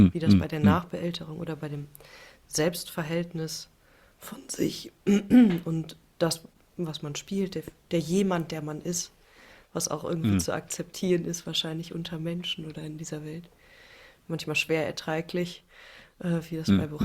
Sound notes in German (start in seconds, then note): 5.1 räuspern; 10.2 räuspern